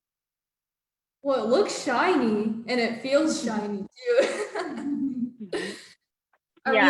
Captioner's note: laughs